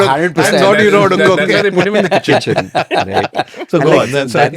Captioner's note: laughs